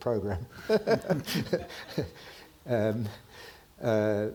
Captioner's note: both chuckling